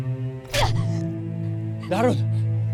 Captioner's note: grunts